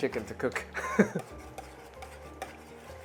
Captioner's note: chuckles